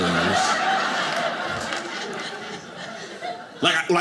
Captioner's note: audience laughing